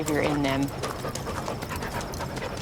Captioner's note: dog panting